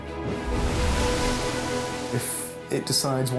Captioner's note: waves crashing